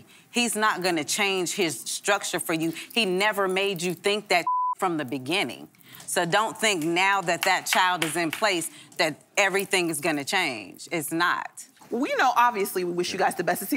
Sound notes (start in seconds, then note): 4.4 beep